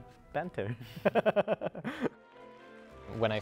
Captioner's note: chuckling